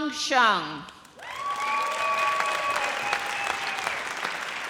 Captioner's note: audience cheers